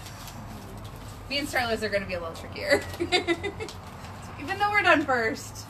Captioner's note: laughs